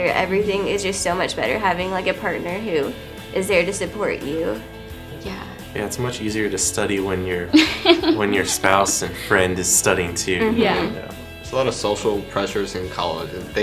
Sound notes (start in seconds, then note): 7.5 laughter